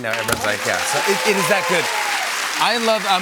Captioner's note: cheers and applause